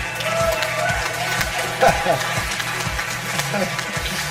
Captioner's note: audience applause